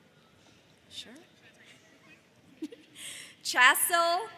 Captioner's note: giggles